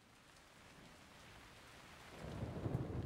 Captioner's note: rain pattering